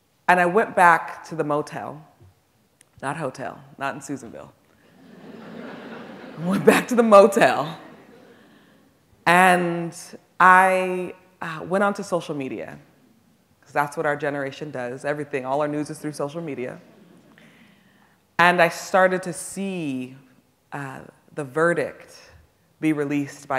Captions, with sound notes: And I went back to the motel, not hotel, not in Susanville. (audience laughing) Went back to the motel and I went onto social media, 'cause that's what our generation does, everything, all our news is through social media, and I started to see the verdict be released